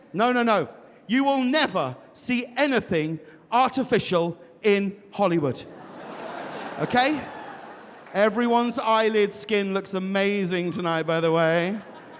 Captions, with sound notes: No, no, no. You will never see anything artificial in Hollywood. (audience laughs) Okay? Everyone's eyelid skin looks amazing tonight, by the way.